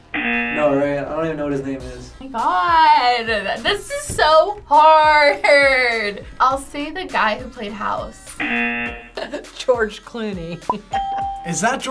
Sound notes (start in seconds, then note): 0.0 buzzer rings; 8.4 buzzer rings; 9.1 laughs; 10.8 bell rings